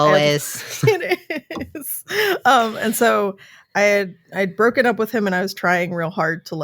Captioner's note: laughing